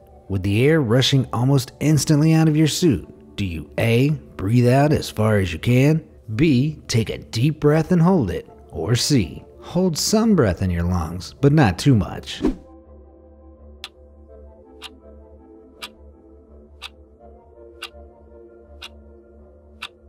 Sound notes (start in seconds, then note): 12.4 air whooshing; 13.8 clock ticking